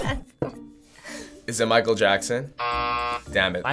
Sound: laughing; buzzer

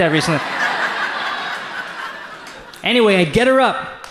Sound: audience laughs

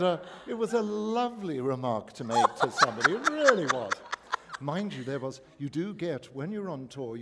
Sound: laughter

